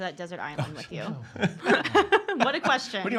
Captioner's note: laughing